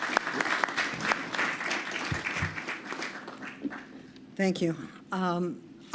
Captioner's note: applause